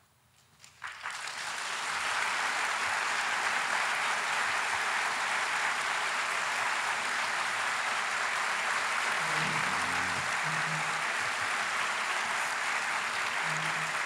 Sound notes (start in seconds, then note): 0.6 applause